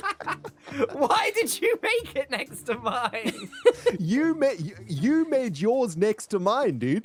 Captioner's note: laughs